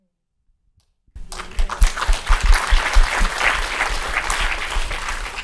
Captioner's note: people clapping